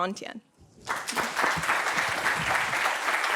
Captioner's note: applause